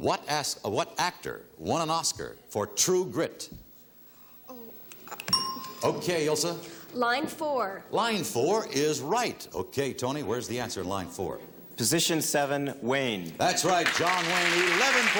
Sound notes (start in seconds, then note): 6.1 ting